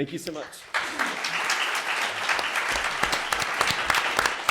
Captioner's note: audience claps